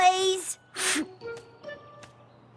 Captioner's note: scoff